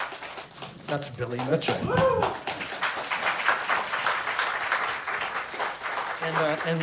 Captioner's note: cheer and applause